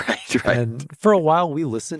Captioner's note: laughs